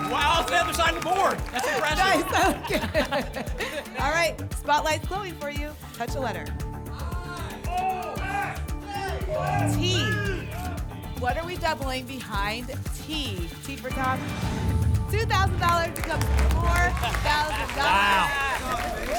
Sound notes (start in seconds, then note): 7.3 audience shouting letters